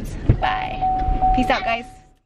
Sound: car beeping

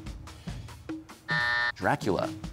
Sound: buzzer

